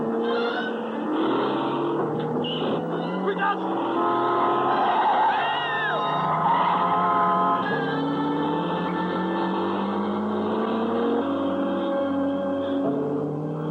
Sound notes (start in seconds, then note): 1.7 screaming; 3.3 horn blaring